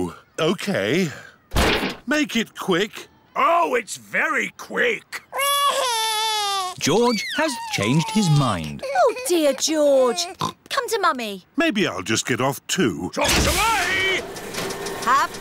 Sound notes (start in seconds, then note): 5.3 crying; 10.3 oinks